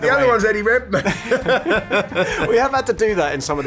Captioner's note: both laughing